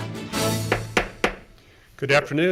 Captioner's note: gavel tapping